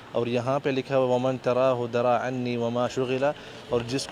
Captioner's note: Arabic